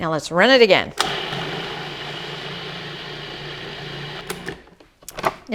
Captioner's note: food processor whirs